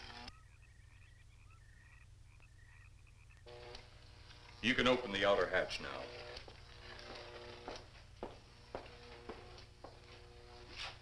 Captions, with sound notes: You can open the outer hatch now. (door whirring)